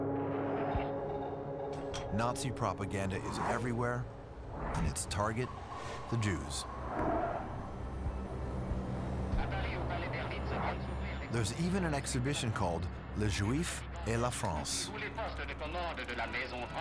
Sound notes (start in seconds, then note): 8.2 french dialogue; 13.5 french interpreted